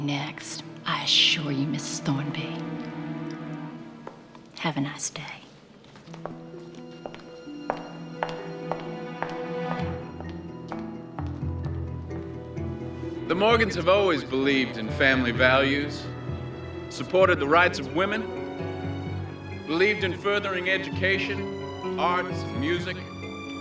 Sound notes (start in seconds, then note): 5.5 footsteps departing